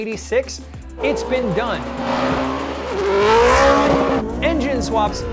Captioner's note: racing engine